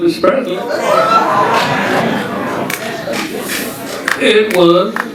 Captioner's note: audience chattering and cheering